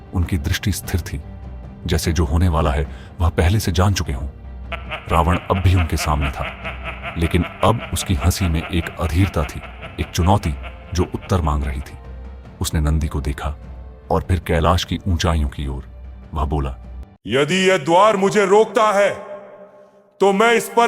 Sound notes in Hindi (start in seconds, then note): 7.3 हंसी